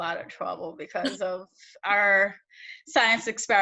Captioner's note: chuckles